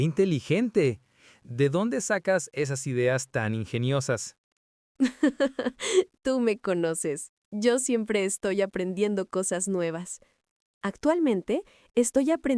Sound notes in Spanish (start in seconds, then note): 5.0 risas